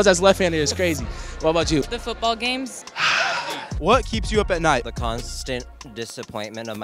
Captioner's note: laughs; sigh